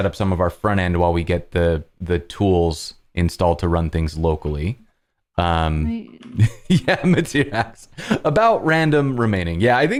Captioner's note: laughter